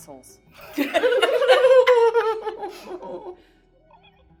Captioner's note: laughing